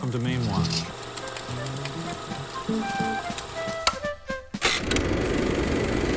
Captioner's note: film reel clicking; gentle music